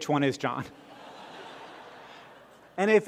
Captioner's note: laughter